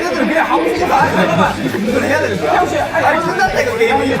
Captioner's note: hesitant